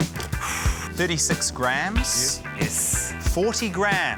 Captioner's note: exhales heavily